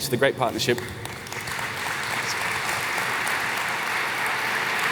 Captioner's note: applause